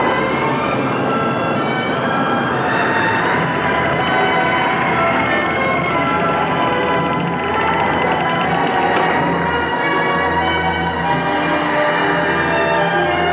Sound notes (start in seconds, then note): 8.5 wind howling